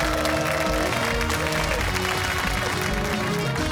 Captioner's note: cheers and applause